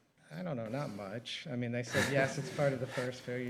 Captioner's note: chuckling